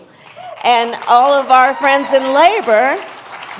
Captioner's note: applause